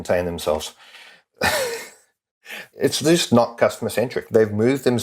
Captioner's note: laugh